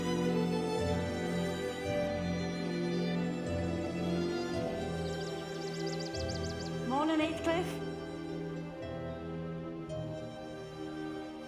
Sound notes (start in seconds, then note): 5.0 birds singing; 8.9 soft music